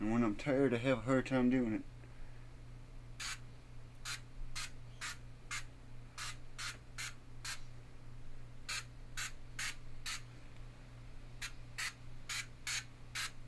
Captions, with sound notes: And when I'm tired, I have a hard time doing it. (vapor spraying)